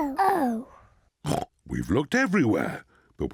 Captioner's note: oinks